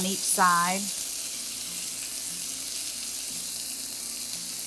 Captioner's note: pan sizzling